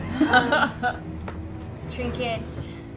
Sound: laughter

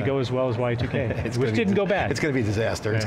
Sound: chuckles

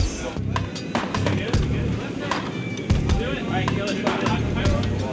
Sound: chatter

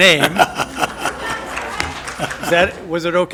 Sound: laughter

